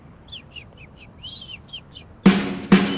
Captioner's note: bird chirping